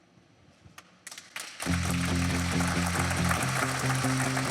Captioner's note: clapping